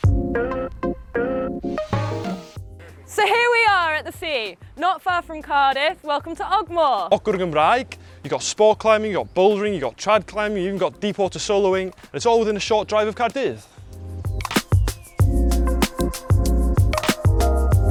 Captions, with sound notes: So here we are at the sea, not far from Cardiff, welcome to Ogmore! [Welsh] Ogwr, in Welsh You've got sport climbing, you’ve got bouldering, you’ve got trad climbing, you’ve even got deep water soloing and it's all within a short drive of Caerdydd.